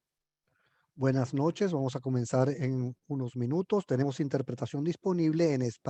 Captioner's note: speaking in foreign language